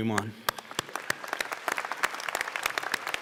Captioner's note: applause